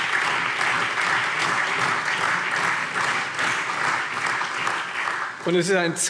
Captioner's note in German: Lebhafter allgemeiner Beifall